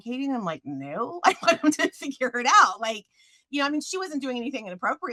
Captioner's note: chuckles